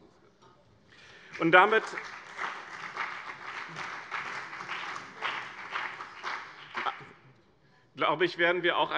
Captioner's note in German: Beifall bei dem BÜNDNIS 90/DIE GRÜNEN und der CDU